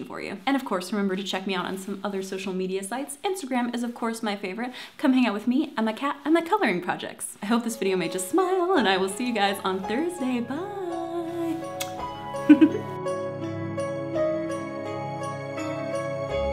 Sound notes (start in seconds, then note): 11.4 kiss; 12.4 laughs